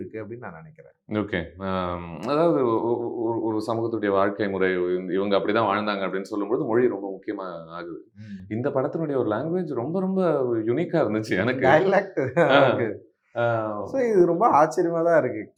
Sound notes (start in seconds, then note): 8.6 dialect